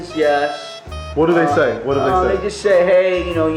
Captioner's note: voiceover